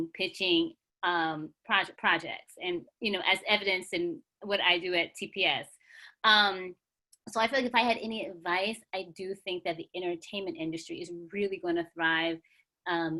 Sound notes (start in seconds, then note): none